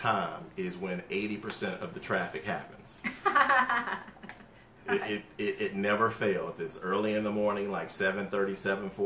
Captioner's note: laughter